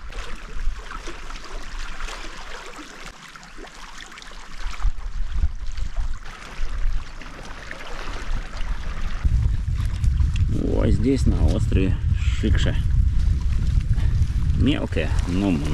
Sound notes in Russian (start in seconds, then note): 10.8 шум волн